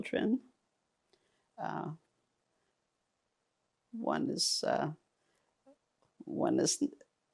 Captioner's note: pauses 6 seconds